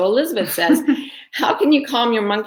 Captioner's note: giggling